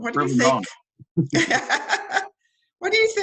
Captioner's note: both laughing